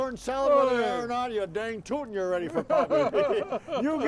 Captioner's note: laughing